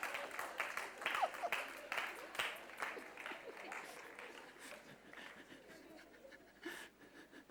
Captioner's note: laughter